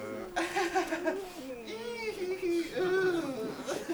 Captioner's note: Jack chuckles